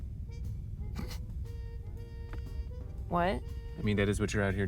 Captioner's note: scoffs